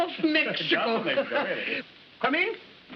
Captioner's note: chuckles